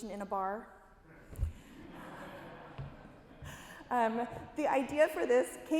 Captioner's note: audience laughing